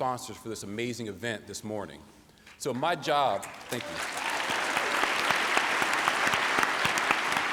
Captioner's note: applause